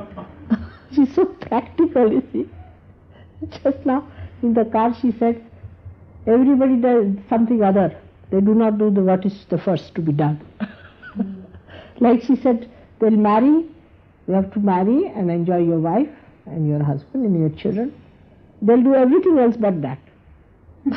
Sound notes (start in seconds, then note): 0.0 laughing